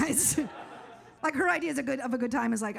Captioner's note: audience laughs